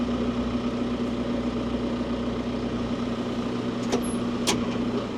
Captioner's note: engine humming continues